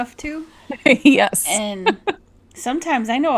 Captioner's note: laughs